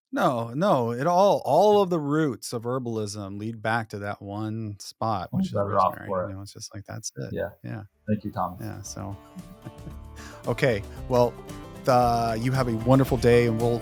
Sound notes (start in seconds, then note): 9.3 laughs